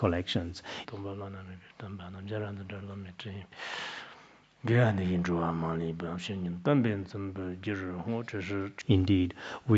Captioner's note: citing scripture in Tibetan